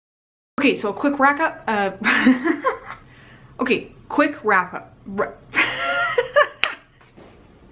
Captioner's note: laughter